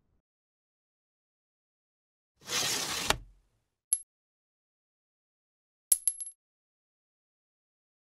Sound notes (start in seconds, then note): 2.4 scraping sounds; 4.0 coins clinking